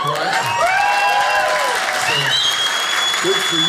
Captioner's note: audience cheers